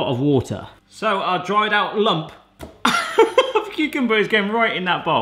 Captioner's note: laughs